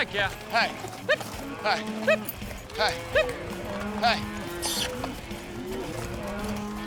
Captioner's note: calling cattle